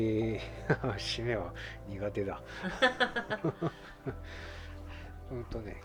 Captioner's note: laughs